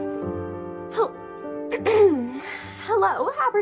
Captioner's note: clears throat